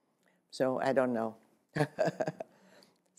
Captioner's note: laughs